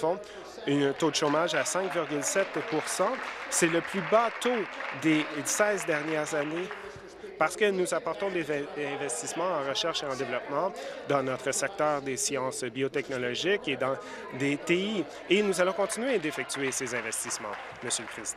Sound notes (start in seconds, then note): 5.5 applause